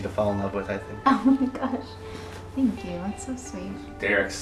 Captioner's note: laughs